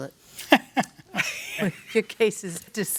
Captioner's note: laughs